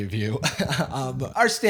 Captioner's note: chuckles